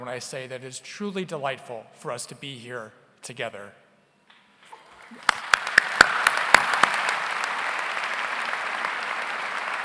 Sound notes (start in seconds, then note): 5.0 audience applauds